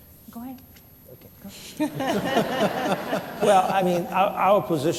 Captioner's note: laughter